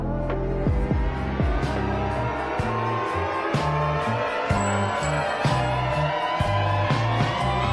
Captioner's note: applause